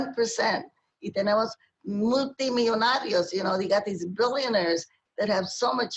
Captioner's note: speaking spanish